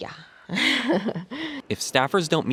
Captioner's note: laughter